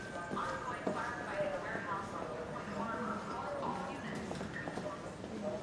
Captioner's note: announcement over intercom